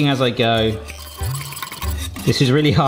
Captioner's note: light gentle music; whisk scraping